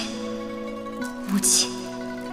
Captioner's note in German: Mutter